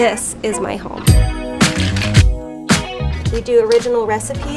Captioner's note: funky music; cocktail shaking